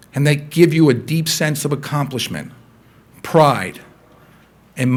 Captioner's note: none